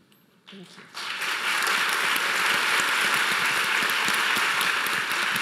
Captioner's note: audience applauding